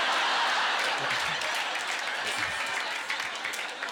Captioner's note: audience laughter; audience applause